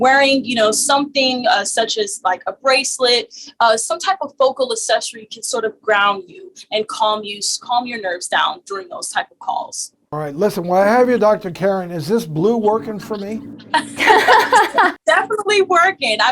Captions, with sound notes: wearing, you know something such as like a bracelet, some type of focal accessory can sort of ground you and calm you, calm your nerves down during those type of calls. All right, listen, when I have you, Dr. Karen, is this blue working for me? (laughing) Definitely working.